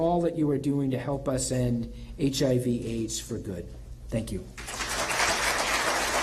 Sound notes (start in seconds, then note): 4.5 applause